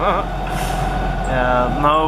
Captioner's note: laughs